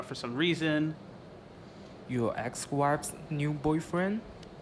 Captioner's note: voiceover